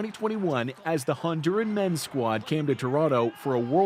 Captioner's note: cheers and Applause